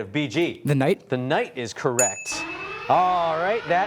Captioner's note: alarm blaring